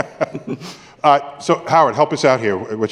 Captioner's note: laughter